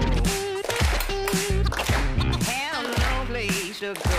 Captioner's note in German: Rhythmisches Klatschen